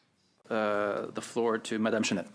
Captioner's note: speaking French